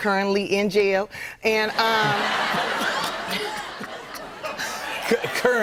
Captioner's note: laughter